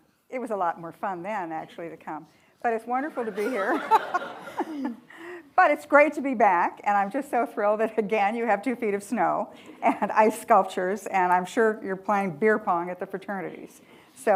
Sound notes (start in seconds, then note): 3.2 attendees laughing; 3.3 laughs